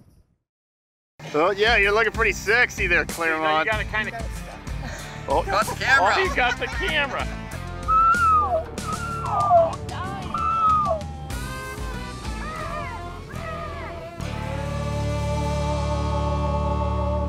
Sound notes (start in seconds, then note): 4.8 laughing; 7.7 animals calling; 14.3 country music